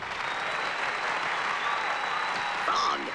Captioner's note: cheers and applause